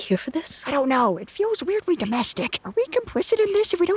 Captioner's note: whispers